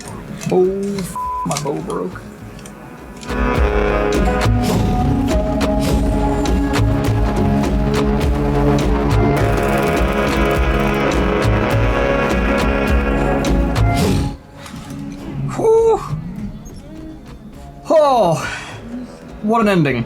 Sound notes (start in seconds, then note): 4.8 engine revving